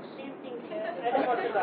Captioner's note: Gülüyor :D